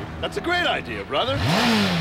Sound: engine revs

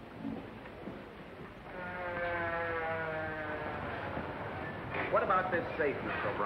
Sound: police siren sounding down

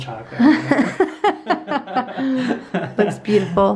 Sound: laughs

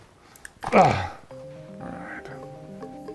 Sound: grunting

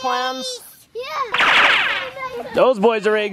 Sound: animated shooting sound

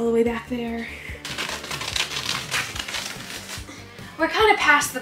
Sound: fabric tearing

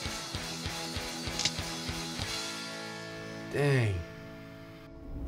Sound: drum stick snapping

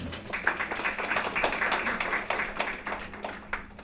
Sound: audience applauds

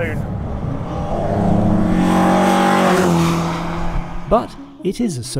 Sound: engine revving

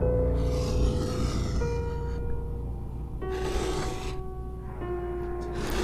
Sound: continued growling

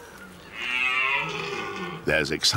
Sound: red deer roars

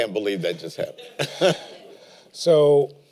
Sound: laughter

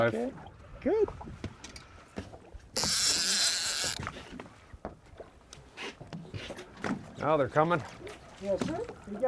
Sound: reel spinning

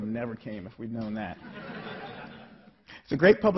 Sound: laughing

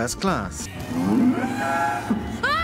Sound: mooooooo

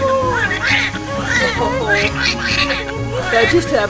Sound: baby crying

